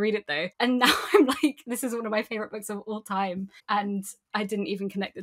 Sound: laughing

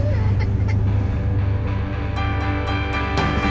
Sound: Enok crying

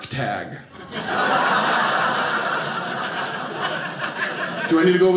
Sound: audience laughing

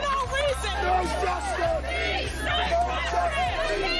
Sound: chanting

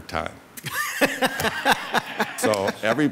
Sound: all laughs

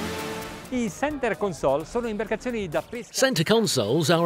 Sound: speaking Italian

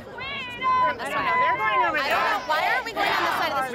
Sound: chanting

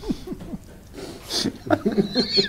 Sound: giggle

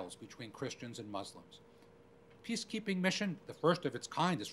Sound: none

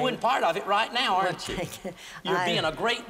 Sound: giggles

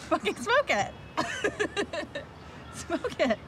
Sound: laughing

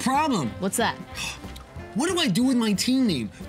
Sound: sighs

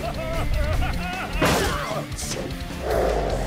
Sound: laughing; smashing; roaring; gasping

